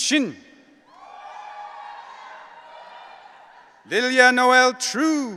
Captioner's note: audience cheering